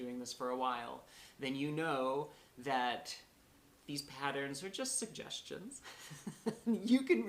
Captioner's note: laughter